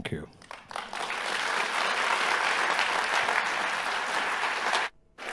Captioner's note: audience applauding